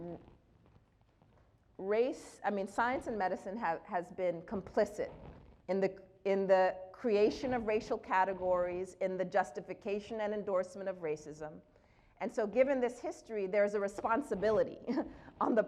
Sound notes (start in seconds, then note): none